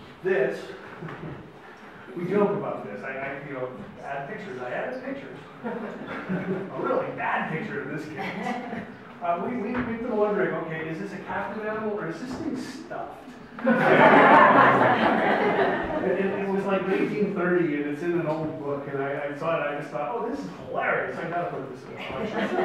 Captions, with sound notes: This, we joke about this. You know, add pictures, I added pictures. A really bad picture, in this case. We've been wondering, okay, is this a captive animal, or is this thing stuffed? (audience laughs) It was like 1930, and it's in an old book. And I saw it, and I just thought, oh, this is hilarious. I gotta put this in the slideshow.